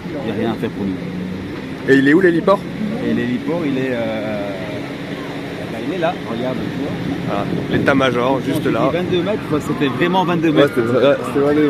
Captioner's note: laughs